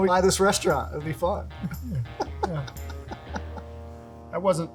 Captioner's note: laughter